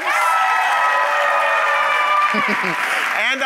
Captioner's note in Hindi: वाहवाही